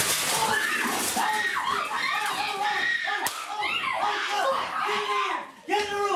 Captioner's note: screaming